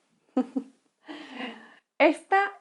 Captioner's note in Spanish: Risa malvada